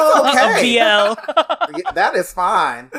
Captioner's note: laughs